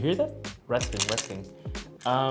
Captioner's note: rattling noises